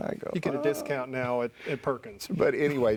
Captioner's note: laughs